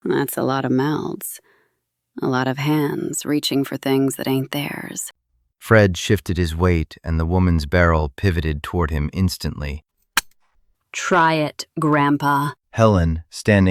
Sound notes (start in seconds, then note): 10.2 SFX: safety clicking OFF